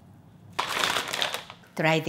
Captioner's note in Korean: 부스럭부스럭